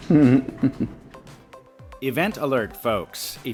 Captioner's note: laughing